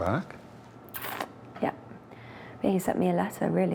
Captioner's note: sucks teeth